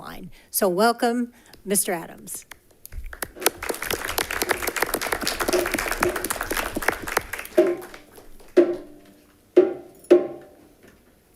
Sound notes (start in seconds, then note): 2.4 all clapping; 8.6 drum beating